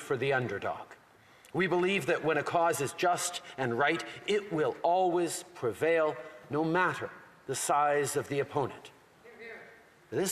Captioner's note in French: voix de l'interprète